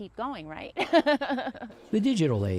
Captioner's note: laughing